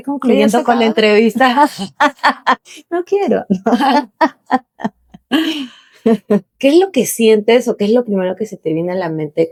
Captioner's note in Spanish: risas; risas; carraspeo